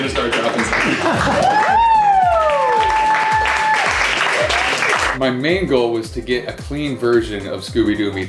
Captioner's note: applause